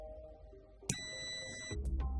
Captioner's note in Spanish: sonido: piiiii